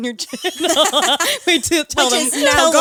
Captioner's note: all laughing